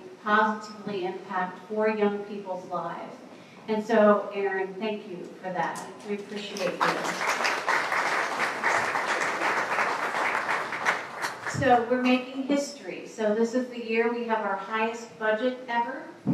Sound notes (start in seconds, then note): 6.3 applause